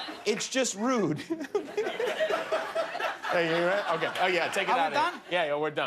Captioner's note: laughter